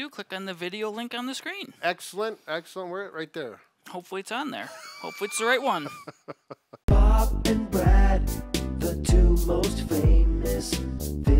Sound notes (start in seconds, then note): 4.7 chuckling